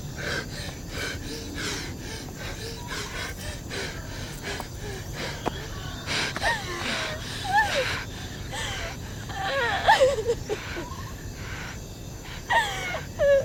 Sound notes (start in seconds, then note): 9.2 Ira cries